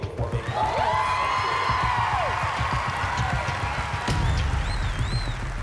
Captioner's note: cheering and applause